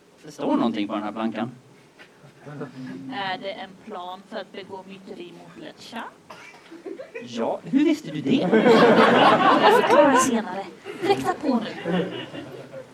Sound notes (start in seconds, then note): 8.4 laughter